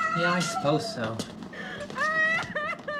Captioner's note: crying